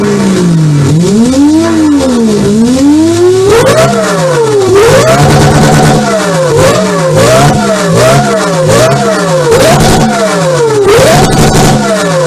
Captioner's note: rev